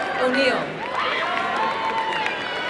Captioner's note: applause and cheering